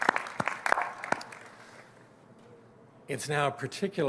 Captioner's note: applause